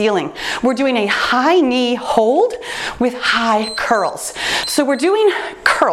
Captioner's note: timer beeps